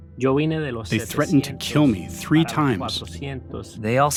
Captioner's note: through translator